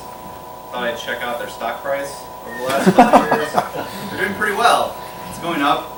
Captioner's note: laughter